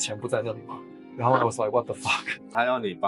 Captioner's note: Korean